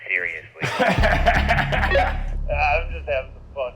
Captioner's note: laughing